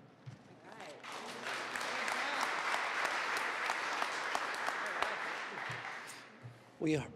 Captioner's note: applause